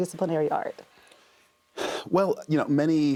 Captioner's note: exhales